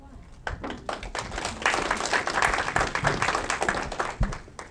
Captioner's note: audience clapping